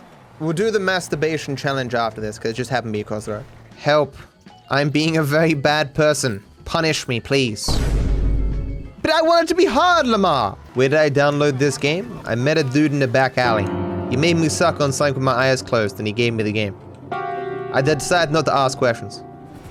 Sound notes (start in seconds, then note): 7.7 Vine boom